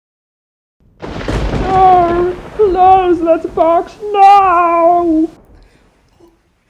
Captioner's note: thunder